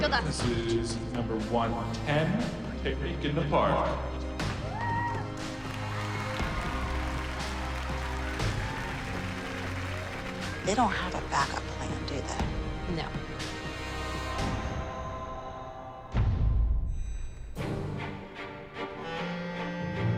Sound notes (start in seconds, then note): 4.5 applause and cheers